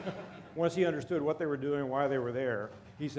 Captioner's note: laughter